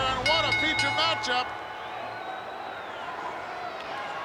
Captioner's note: bell rings